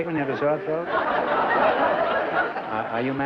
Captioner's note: laughter